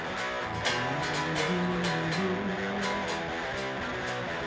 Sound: Steve humming; humming continues

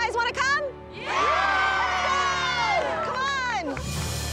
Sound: crowd cheers

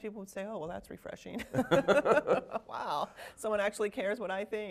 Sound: both laughing

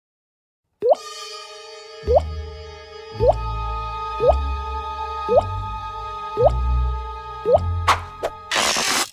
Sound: dripping

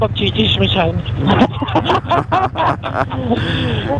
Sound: group laughing

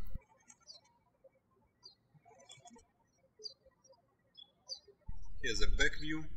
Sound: birds chirping

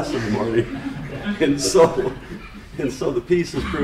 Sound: laughter

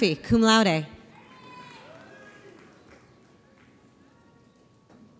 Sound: audience applauds

